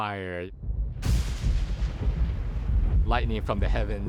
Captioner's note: thunder rumbling and cracks of lightning